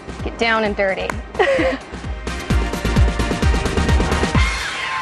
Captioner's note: laughs